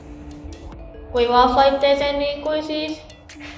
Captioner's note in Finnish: lapsen ääni